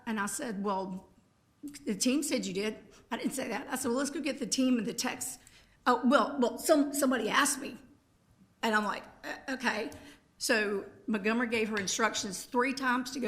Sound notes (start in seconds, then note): none